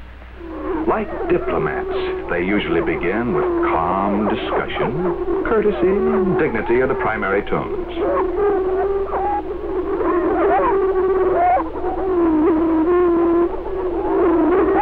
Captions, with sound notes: Like diplomats they usually begin with calm discussion; courtesy and dignity are the primary tones. (prairie chicken calling)